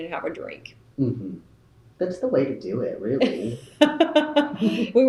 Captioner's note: laughter